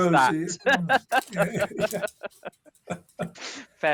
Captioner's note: laughs